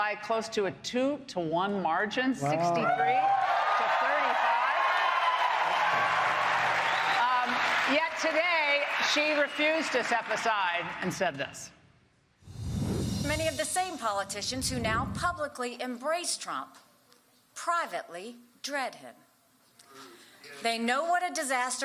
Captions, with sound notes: Nikki Haley by close to a 2 to 1 margin, 63 (applause) to 35. Yet today, she refused to step aside and said this. Haley> Many of the same politicians who now publicly embrace Trump, privately dread him.